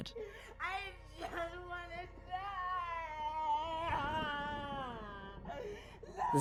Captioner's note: crying